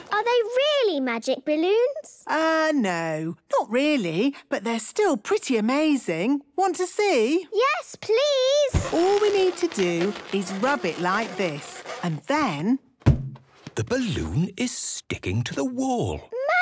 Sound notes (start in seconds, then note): 8.7 balloon rubbing; 12.7 balloon echoes